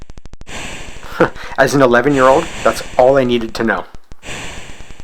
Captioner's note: chuckle